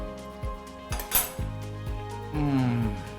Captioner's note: silverware clinks on glass table; humming in enjoyment